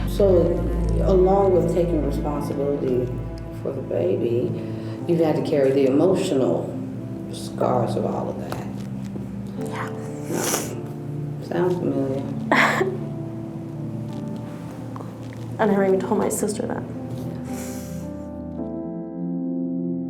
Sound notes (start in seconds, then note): 12.5 cries; 17.6 soft music